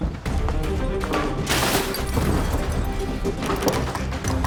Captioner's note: ominous music; flips over table; rattles doorknob